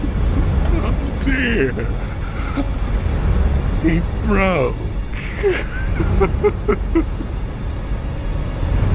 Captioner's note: evil laughter; evil laughter